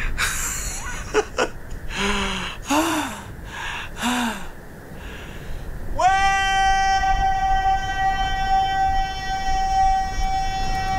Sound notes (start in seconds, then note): 0.2 Papi laughs